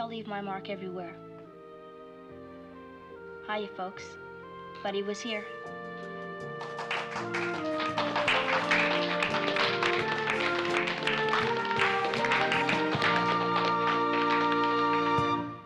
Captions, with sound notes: Maybe I'll leave my mark everywhere. Hiya, folks. Buddy was here. [ Applauding ]